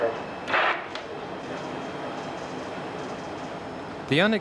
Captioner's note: radio static buzzing